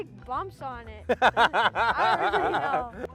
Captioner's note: laughs